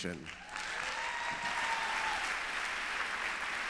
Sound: applause

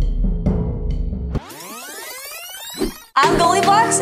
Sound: dramatic drum beat; video tape whining

